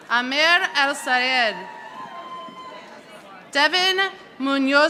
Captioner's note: audience applauding